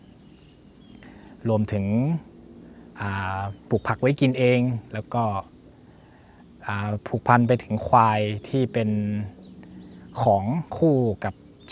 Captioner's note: speaking Thai